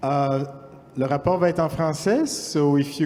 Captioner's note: speaking french